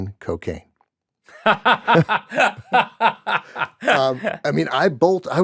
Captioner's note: laughter